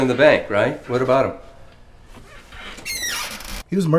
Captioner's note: chair creaks